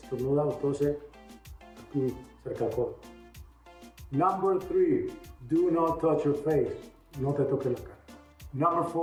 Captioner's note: \repeating in spanish\